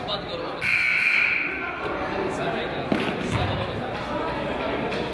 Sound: buzzer honks

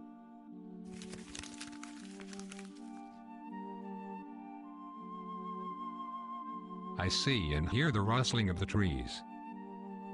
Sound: rustling leaves

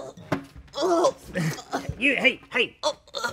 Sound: groans

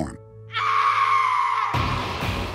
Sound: screaming

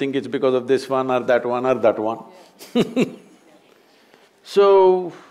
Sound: laughs

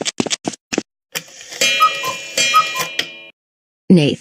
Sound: cuckoo clock

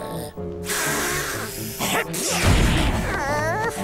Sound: groaning, hissing; sneezing

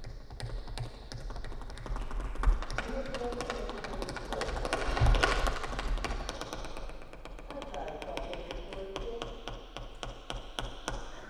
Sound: tapping

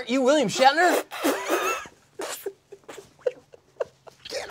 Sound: spitting noises

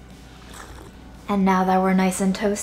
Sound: sips

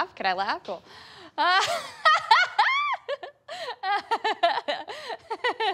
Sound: laughs; laughs

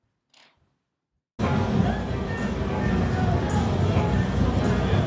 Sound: ambient casino sounds

